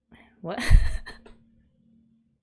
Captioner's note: laughs